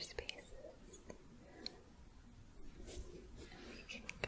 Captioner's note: gentle shuffling